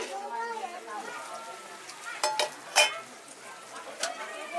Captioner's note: people chattering